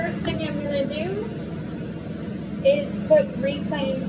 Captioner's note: industrial roar of vent